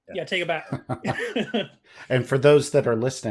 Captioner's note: laughter